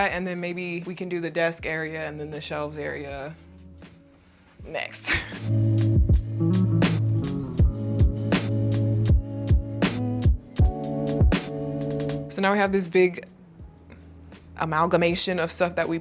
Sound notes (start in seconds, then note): 5.0 laughs; 5.0 gentle serene music